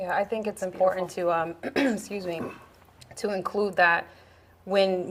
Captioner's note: clears throat